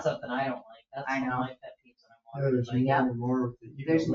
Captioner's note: speaks distantly; people chattering